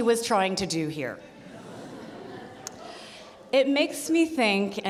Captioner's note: audience laughing